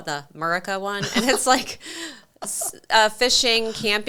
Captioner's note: laughs